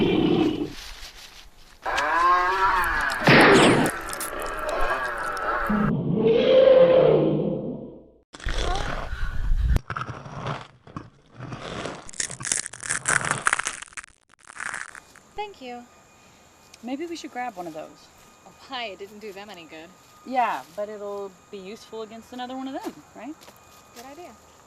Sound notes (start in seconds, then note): 0.2 chainsaw buzz; 0.2 gunshot; 0.2 whipping vine; 4.4 roaring; 9.8 crunching; 12.1 bones snapping